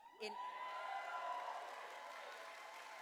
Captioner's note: cheers and applause